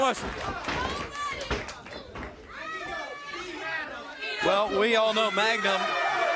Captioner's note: crowd chatter